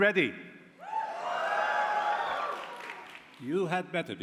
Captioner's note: cheering